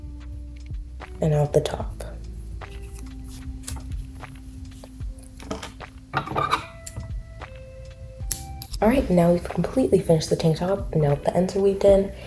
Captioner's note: scissor cut sound